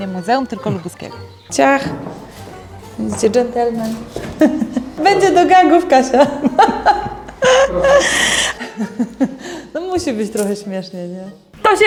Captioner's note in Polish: hahahaha